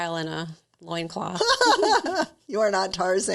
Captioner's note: laughing